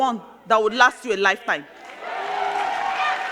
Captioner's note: crowd cheering; crowd clapping